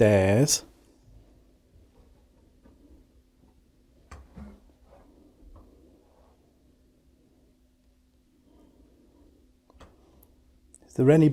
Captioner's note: silence